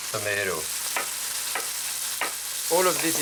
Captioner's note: chopping